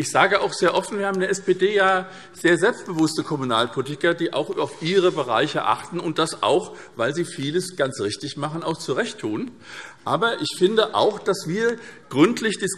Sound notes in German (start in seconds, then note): none